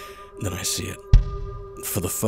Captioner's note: thump